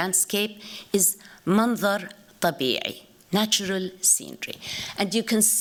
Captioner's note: speaking arabic